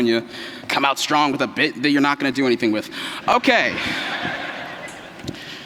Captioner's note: laughter